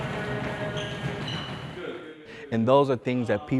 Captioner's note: footsteps pattering